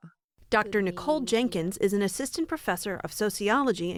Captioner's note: voice-over